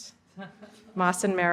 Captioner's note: laughter